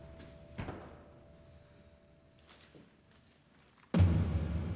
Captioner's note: doors open